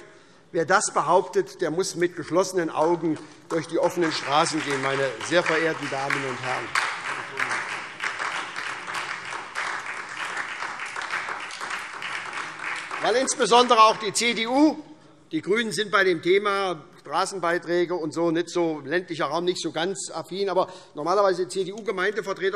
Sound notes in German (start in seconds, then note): 5.8 Beifall SPD und DIE LINKE